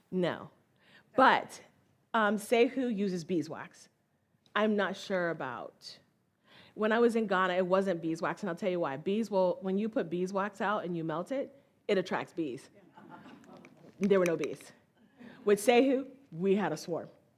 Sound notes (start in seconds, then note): 13.0 audience laughs